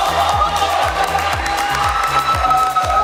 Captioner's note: clapping